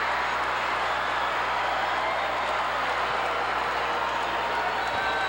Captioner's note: audience cheering continues